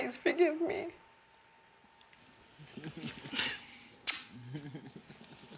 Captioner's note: chuckles